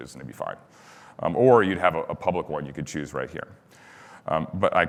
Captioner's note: none